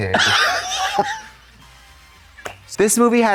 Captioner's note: Katya titters